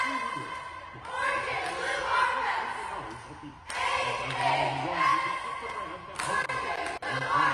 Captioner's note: laughter